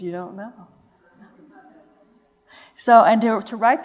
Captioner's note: laughter